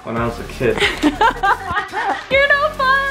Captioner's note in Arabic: كريستال يضحك